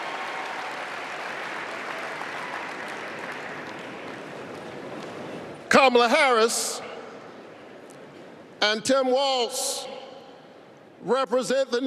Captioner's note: applause